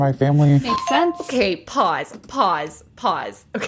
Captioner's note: bingbong